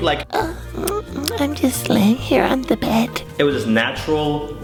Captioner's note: lip smack